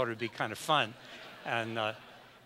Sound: audience laughs

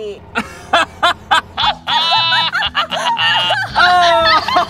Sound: customer and server laugh

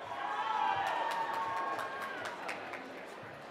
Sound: cheering

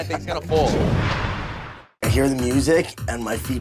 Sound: whooshing

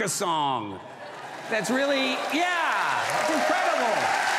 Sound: audience cheers

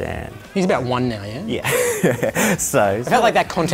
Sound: laughs

